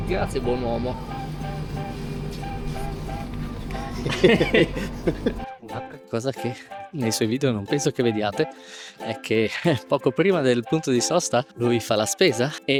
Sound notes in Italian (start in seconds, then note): 0.9 risate